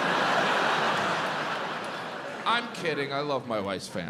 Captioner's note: audience laughs